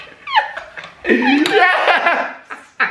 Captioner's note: laughs